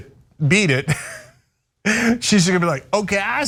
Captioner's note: laugh